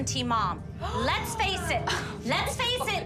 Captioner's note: gasps